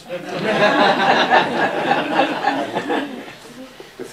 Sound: laughter

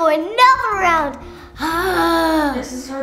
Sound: sighing

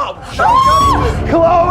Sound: yelling

